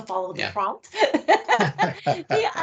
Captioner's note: laughing